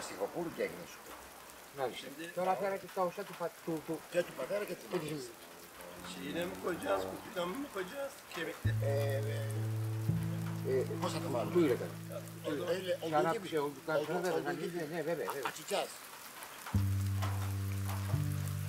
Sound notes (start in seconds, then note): 6.7 in Turkish; 11.0 in Greek; 13.7 in Turkish